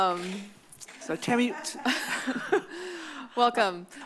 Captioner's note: laughs